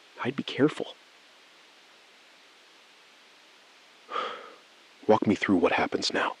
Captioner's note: SILENCE — 4 sec